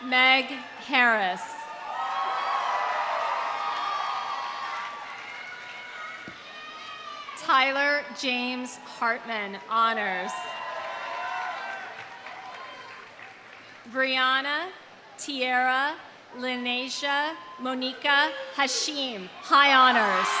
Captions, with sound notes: Meg Harris. (audience cheering) (audience applauding) Tyler James Hartman, honors. (audience cheering) (audience applauding) Briana Tiara Lynasia Monika Hashim, high honors.